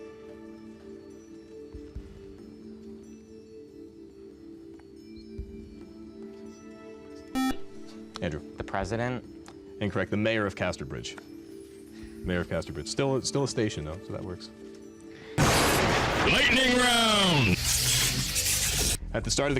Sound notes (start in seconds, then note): 7.3 buzzer; 14.7 intense male voice